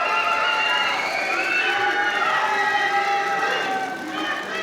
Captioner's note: audience applauding; crowd cheering